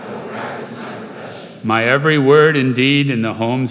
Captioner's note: crowd